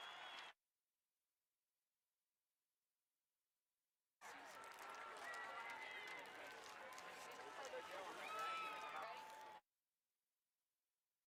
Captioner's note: applause